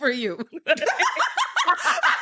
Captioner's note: laughs